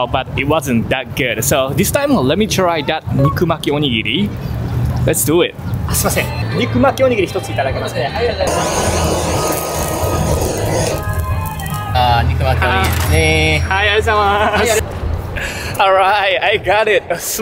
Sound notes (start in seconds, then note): 6.1 speaks in japanese; 8.4 blowtorch scorches; 12.1 staff speaks in japanese